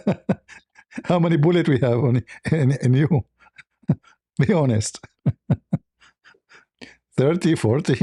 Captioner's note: laughter